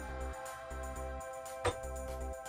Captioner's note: click